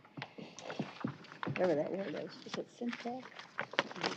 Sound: indistinct chatter

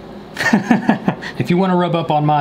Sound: laughing

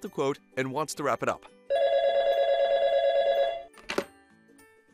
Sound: telephone ringing

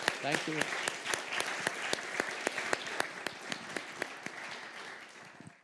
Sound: applause

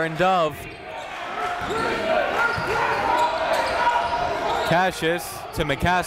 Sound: crowd talking; coaches yelling

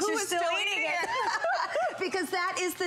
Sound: laughter

